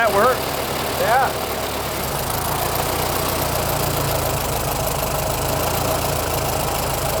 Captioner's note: engine idles